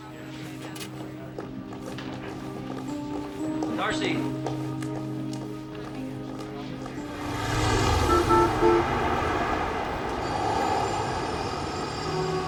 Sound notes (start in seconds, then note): 0.2 dramatic orchestral music; 7.0 horn honking